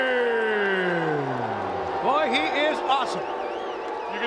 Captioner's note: crowd cheering